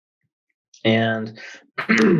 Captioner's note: clears throat